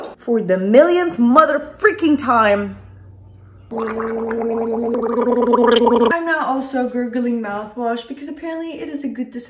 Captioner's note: gargling